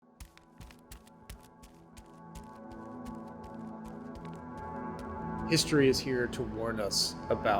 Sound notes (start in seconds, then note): 0.1 feet pattering; 5.4 tense upbeat music